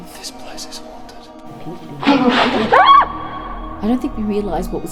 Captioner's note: woman screams